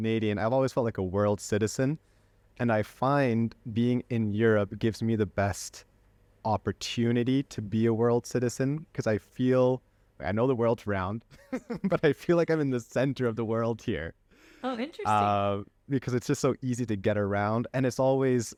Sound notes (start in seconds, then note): 11.3 laughter